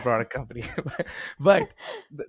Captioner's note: laughing